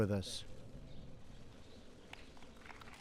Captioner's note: applause